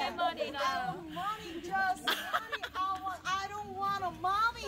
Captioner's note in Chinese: 笑声